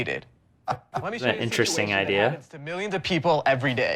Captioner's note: Sharks laughing